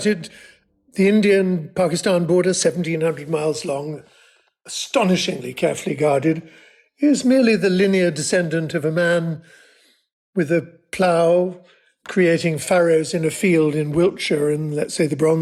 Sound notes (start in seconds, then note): none